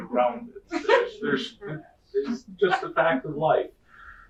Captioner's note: laughter